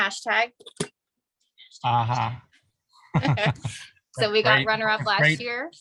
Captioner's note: laughter